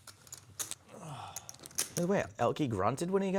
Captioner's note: sighing